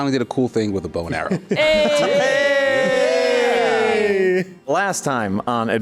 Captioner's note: group AYEEEEEEE